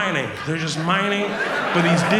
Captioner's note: audience laughs